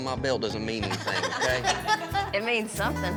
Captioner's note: everyone laughs